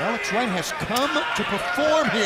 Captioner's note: crowd chatter